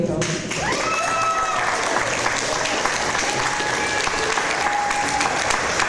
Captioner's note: audience applause